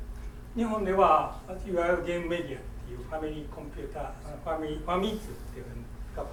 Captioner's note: speaking in foreign language